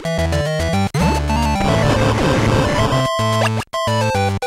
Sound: game audio

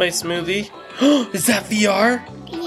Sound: dad gasps

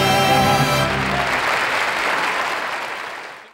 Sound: audience applauds

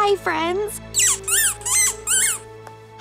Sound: squeaking

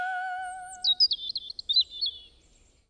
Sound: birds chirping

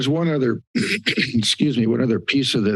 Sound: clears throat

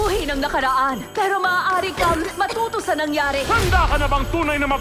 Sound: coughs

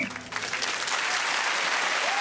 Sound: whistle blows

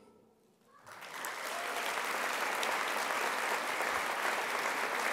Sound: crowd applause

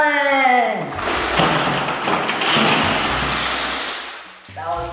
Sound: falling LEGOS

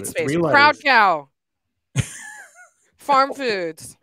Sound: laughs

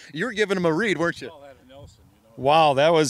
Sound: distant chatter

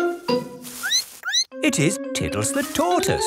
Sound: squeaks

